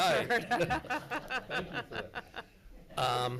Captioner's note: laughs